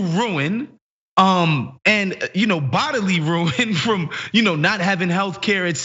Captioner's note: laugh